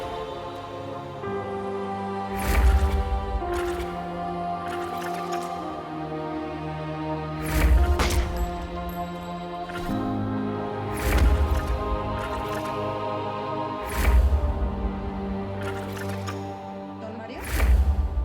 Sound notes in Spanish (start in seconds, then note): 0.1 Disparo; 9.2 Disparo